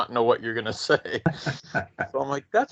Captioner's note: laughing